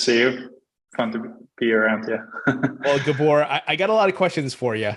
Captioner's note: chuckles